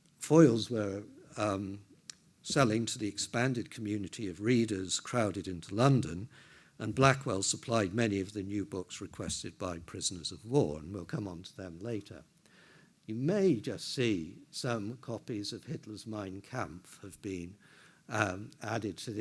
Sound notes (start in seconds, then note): none